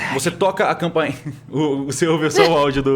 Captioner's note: laughs